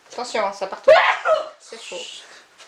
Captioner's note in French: éternue fort